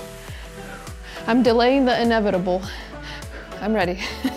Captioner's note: exhales